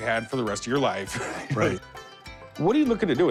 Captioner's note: chuckles